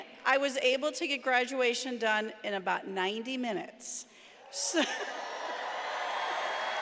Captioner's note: cheering